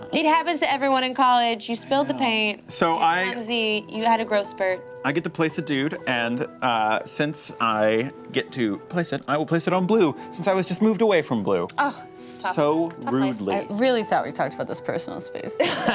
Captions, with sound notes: - It happens to everyone in college, you spilled the paint. You're clumsy, you had a growth spurt. - I get to place a dude and since I get to place it, I will place it on blue since I was just moved away from blue. (groans) - Tough life. - I really thought we talked about this personal space.